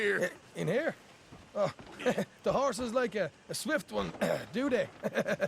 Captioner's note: laughs